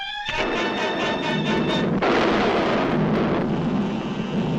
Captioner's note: monster thuds